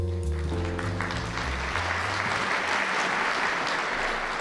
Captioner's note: audience applauds